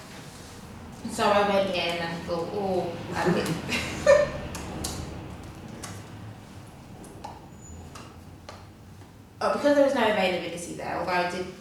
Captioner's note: laughs